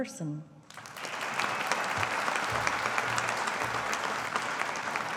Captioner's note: audience applauding